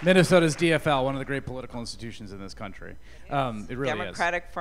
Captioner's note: applause